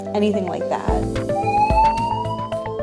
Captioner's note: siren